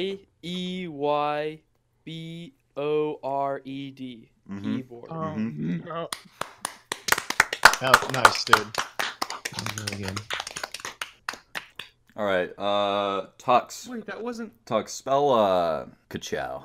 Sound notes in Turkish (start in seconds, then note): 6.2 alkış